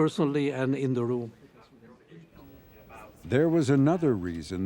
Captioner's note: murmurs